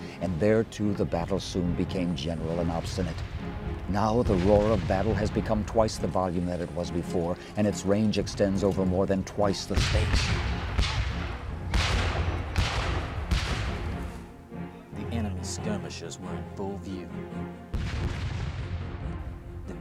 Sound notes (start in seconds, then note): 11.6 cannon and gun fire; 15.4 voiceover